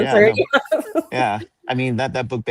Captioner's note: laughs